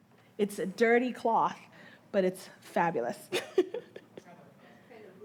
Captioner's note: laughing